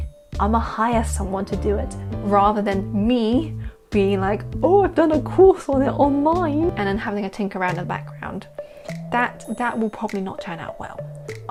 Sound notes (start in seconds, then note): none